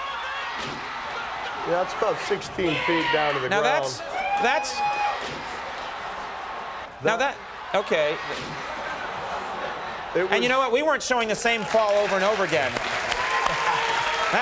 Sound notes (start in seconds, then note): 0.0 audience roaring; 1.1 commentators screaming